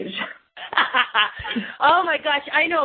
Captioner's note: laughing